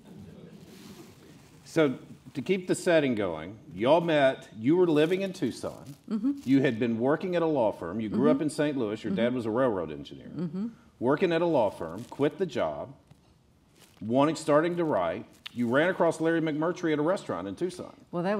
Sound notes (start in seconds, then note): none